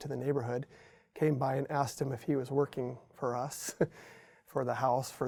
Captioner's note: chuckles